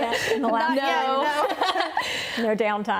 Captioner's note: laughter